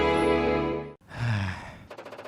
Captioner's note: depressed Sigh